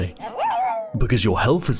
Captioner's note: Ludo borks